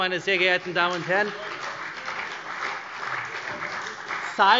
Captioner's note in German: Beifall CDU und vereinzelt BÜNDNIS 90/DIE GRÜNEN